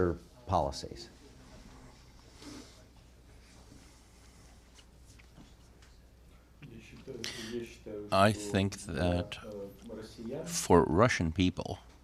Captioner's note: through translator